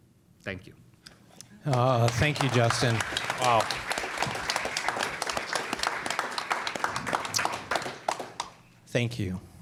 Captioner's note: applause